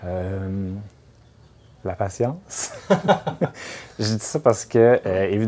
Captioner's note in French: rires